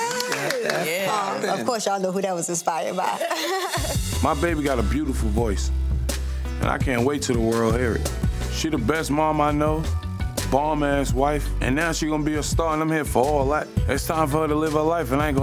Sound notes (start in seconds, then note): 3.0 group laughing